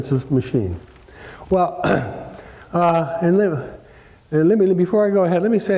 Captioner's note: cough